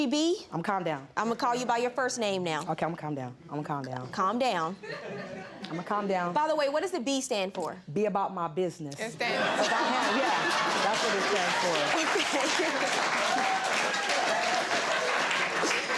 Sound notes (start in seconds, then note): 3.8 woman laughing; 9.7 all applauding; 12.2 laughs